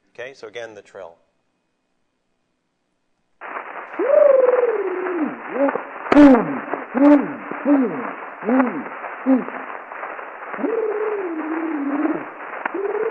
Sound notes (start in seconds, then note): 3.4 trills